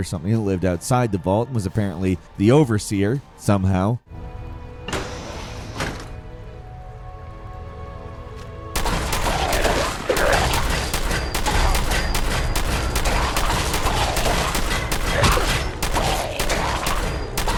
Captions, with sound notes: or something that lived outside the vault, and was apparently the overseer, somehow. (doors sliding) (soft music) (gun firing)